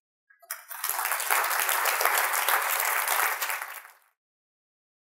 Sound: audience applauding

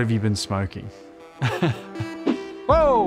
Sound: laughs

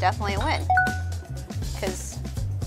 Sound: bell dings

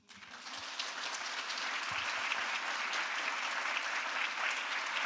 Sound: audience applauding

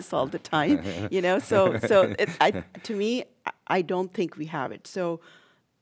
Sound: laughs

